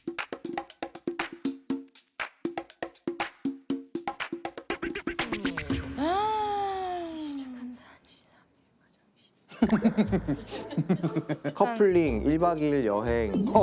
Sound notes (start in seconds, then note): 9.5 just laughing